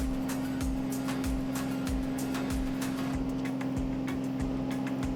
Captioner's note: engine buzzing softly